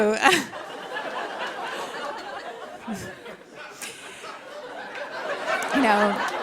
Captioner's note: laughter